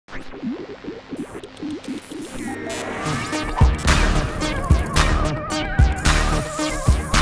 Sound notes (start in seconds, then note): 0.1 electronic noises; 3.7 electronic music